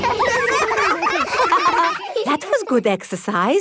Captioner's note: all giggling